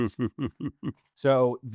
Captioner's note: laughing